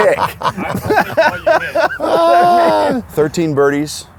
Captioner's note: laughs